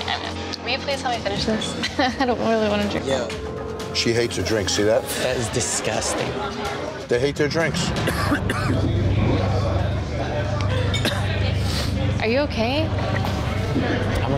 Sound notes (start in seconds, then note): 8.0 coughing